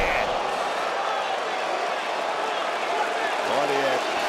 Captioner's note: audience cheering